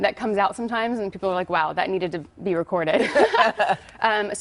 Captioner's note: laughter